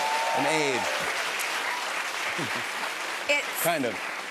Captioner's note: applause